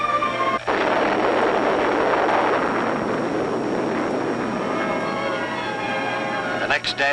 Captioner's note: huge explosion sound